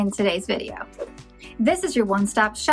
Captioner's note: whooshes